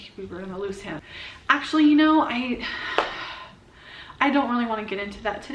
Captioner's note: sighs